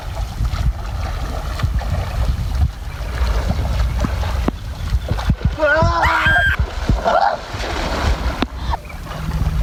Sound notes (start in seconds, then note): 0.3 water splashing; 5.6 yells loudly